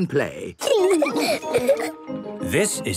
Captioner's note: laughing